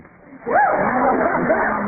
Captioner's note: laughs